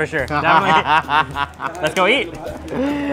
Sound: laughs

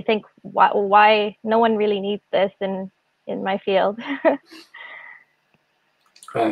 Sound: laughs

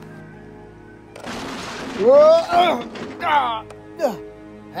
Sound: crash Sounds

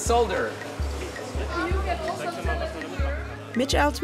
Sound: murmuring

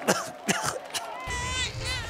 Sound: coughs

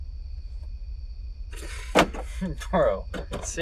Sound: chuckles; car unlocks

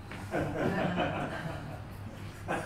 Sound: chuckling

